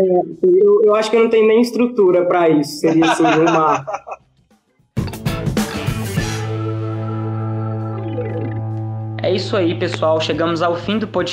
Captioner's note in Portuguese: Risos